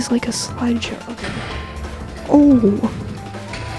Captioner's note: explosion sound; explosion sounds